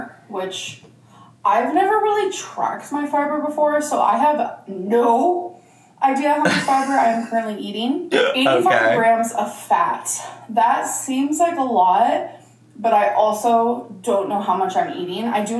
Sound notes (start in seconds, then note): 6.4 laughing